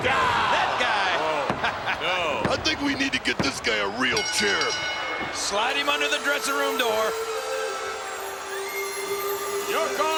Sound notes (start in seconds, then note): 1.5 chuckles; 4.0 bell rings; 7.8 peaceful music